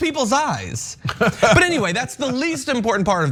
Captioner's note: laugh